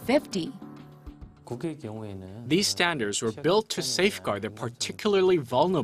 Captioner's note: Korean